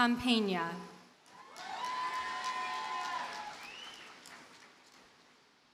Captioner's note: audience cheers and applauds